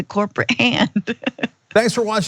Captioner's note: laugh